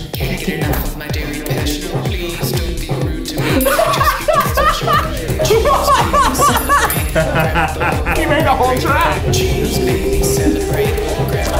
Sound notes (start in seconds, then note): 4.7 laughing; 5.8 bell ringing; 5.8 bell rings; 6.8 laughing